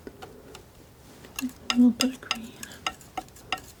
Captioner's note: tapping